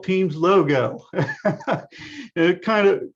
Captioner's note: laughs